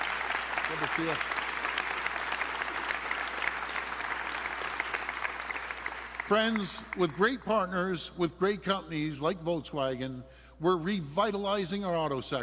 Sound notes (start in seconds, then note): 5.3 applause